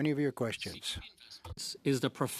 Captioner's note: speaking French